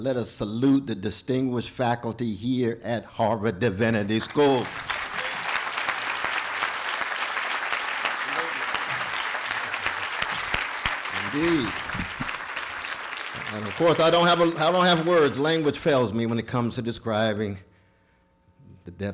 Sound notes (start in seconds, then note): 4.7 applause